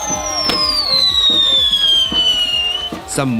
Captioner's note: fireworks whistling, popping